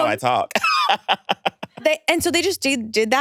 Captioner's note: laughs